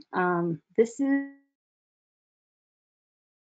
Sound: audio out for several seconds

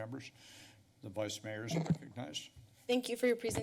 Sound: mic noise

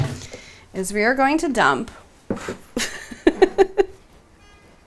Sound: laughs

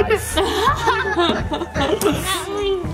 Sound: laughing

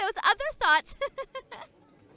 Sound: laughs

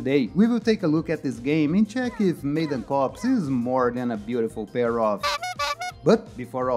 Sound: honking sounds

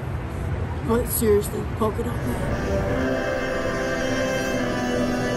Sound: impersonating Batman

